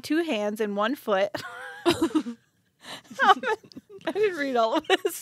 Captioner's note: laughing